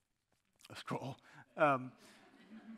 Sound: chuckles

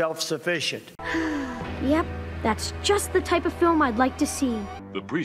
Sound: sighs

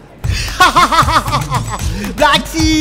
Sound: laughing

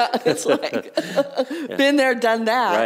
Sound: laughter

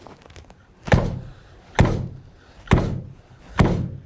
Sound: machine thuds

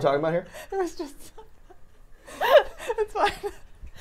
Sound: laughing

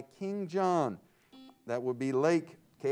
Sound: buzzer sounds

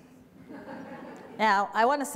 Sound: audience laughter

